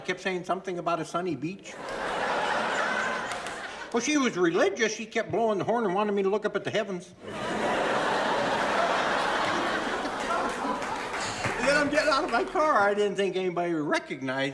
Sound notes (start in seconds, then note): 1.7 audience laughing; 7.2 audience laughing and applauding